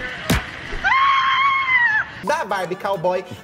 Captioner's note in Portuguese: grito